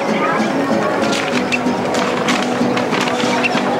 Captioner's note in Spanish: papel arrugado